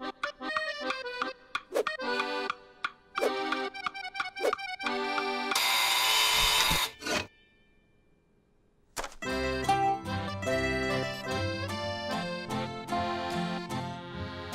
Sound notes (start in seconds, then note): 5.5 buzzer sounds